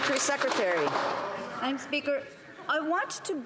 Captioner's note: some Applause